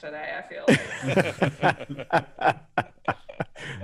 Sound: people laughing

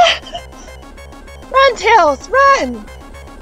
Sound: hyperventilating; voice crack

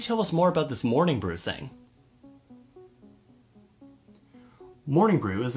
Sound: pause

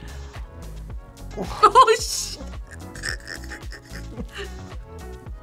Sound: laughs

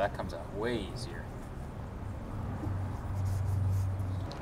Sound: air whirring

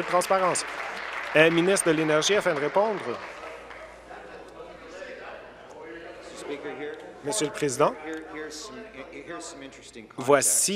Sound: applause

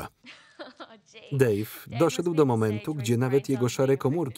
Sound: laughs

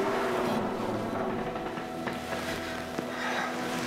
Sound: door creaks

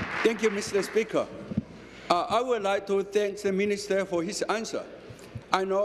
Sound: applause

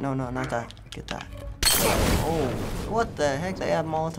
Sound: glass shatters, explosion

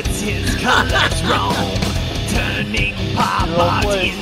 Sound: laughter

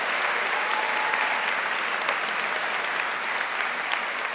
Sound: applause

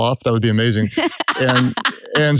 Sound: laughs

